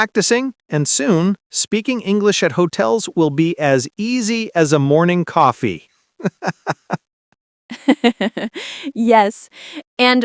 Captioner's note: laughing